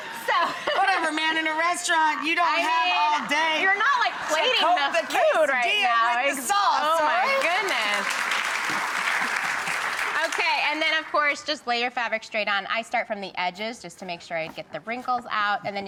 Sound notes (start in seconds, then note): 8.7 audience claps